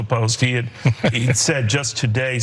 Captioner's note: laugh